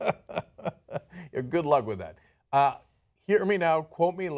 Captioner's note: laughter